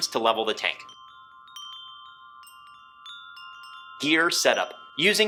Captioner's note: wind chimes chiming